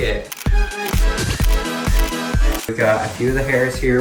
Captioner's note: camera shutter sounds